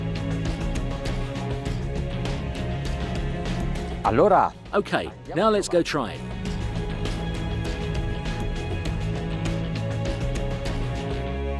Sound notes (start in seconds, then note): 0.2 percussive upbeat music; 4.1 foreign language; 6.5 percussive upbeat music